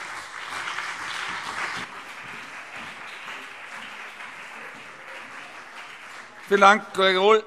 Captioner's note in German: Beifall CDU und BÜNDNIS 90/DIE GRÜNEN